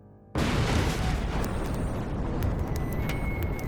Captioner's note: bombs exploding